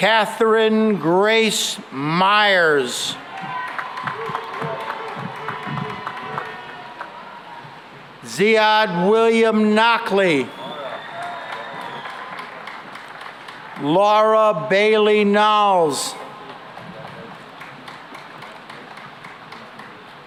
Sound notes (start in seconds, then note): 3.2 cheering and applause; 10.5 cheering and applause; 16.7 applause